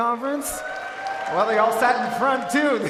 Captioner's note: audience cheering